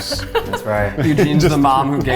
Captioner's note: laughing